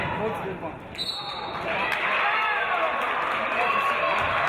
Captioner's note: referee's whistle